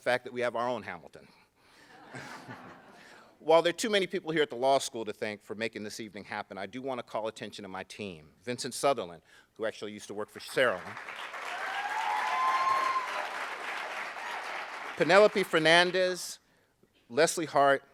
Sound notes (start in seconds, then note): 2.0 laughing; 10.5 applauding